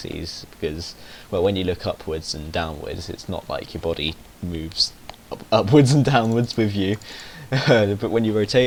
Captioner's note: he snickers